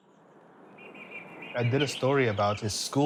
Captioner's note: birds chirping